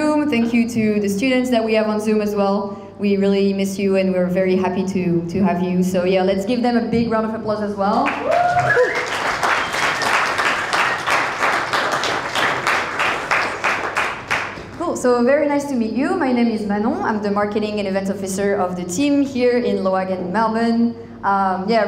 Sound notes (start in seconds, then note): 8.1 crowd applauding; 8.1 crowd cheering